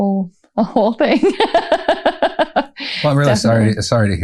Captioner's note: laughter